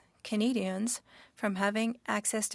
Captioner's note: speaking french